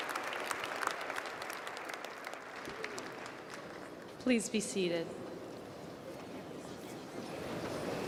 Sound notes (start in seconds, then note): 3.9 applause